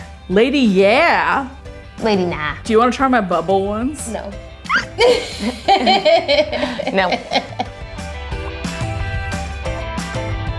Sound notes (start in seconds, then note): 4.7 squealing; 4.7 laughing; 7.8 upbeat music